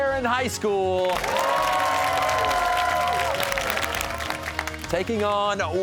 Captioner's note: cheers and applause